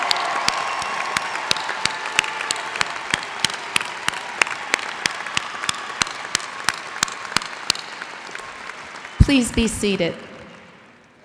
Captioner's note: cheers and applause